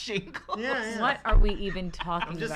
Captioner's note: laughs; laughter